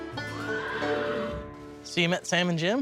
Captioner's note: horses neighing sound